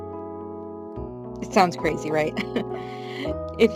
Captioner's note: laughs